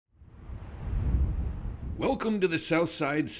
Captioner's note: wind whooshing